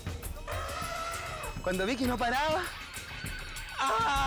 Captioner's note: speaks in foreign language; elephant trumpets; speaks in foreign language